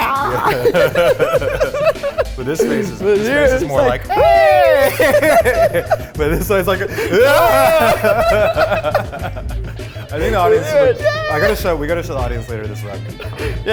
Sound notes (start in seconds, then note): 0.1 laughing; 3.5 both screaming; 3.9 both laughing; 7.0 both screaming; 7.1 both laughing